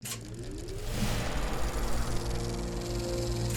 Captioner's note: film reel spooling up